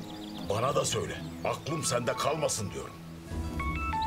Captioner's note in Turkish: Telefon çalıyor